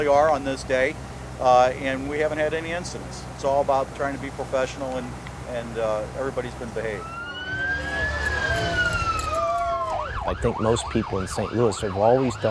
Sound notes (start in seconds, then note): 6.8 police sirens